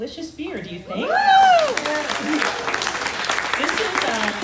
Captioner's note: crowd cheering